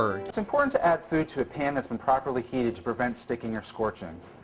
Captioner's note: in incredibly crunchy audio